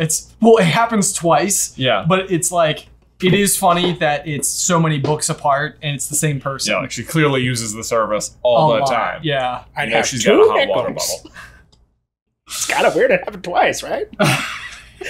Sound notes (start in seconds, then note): 10.5 womanly voice